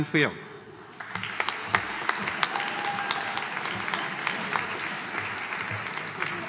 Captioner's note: audience applauding; audience cheering